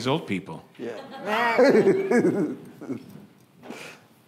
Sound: audience laughing

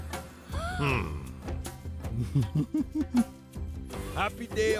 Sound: gasping; laughing

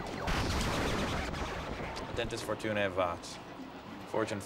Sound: speaking latin

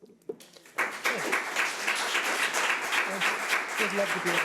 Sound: audience clapping

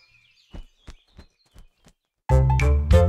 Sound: owl wings flapping; playful music

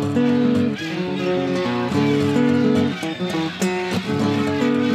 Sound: chanting and shouting

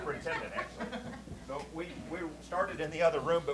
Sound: laughter

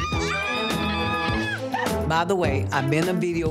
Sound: screaming

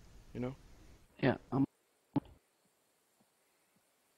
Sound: cuts out

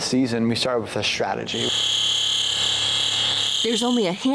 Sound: machine whirring

